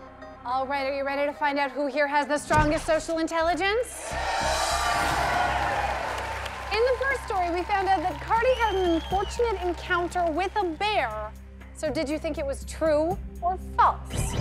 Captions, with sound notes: Alright are you ready to find out who here has the strongest social intelligence? (audience cheers) In the first story we found out that Kardi had an unfortunate encounter with a bear. So did you think it was true or false?